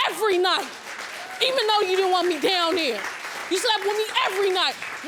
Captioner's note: audience applauding